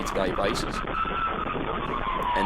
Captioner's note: sirens wailing